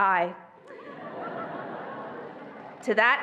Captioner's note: attendees laughing